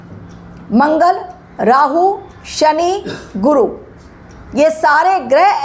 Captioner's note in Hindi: गला साफ़ करने की आवाज़